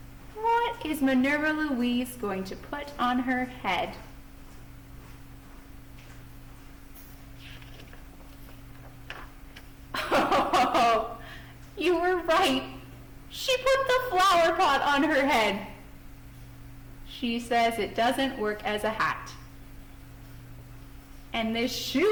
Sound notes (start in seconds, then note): 5.7 laughing